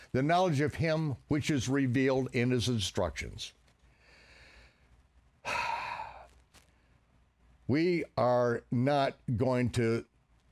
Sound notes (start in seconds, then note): 5.4 sighing